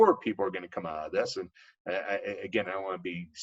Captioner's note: coughs